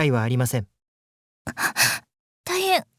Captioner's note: horrified gasp